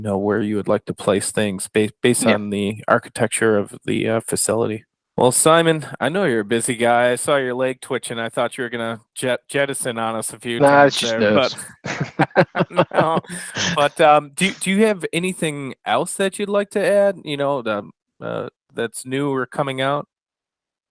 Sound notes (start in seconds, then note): 10.5 both laugh